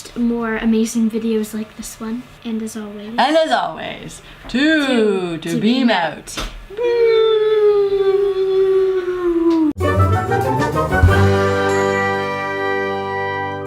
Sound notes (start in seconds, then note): 6.9 whooo